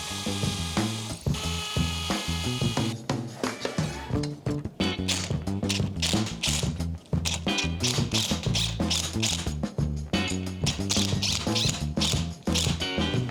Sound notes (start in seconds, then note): 0.0 drill whirs; 0.1 upbeat music continues; 5.4 drill whirs